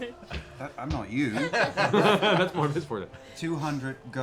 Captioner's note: laughter